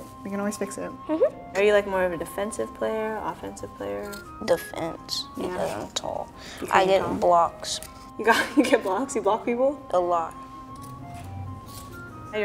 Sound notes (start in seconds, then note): 8.3 chuckling; 10.6 gentle music continuing